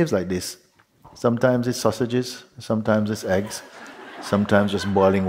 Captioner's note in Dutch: Gelach